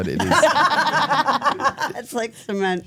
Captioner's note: laugh